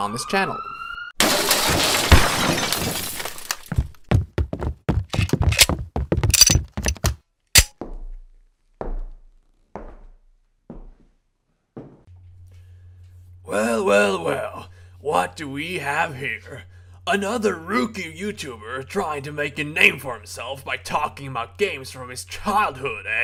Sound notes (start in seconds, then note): 0.0 police sirens blaring in the background; 7.2 swat team rushing in